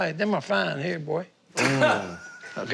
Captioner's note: laughing